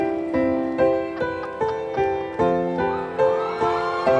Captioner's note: audience applauding; female laughing; audience cheering